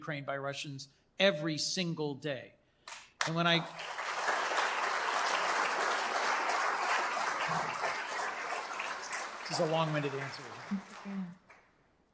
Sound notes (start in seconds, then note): 3.2 applause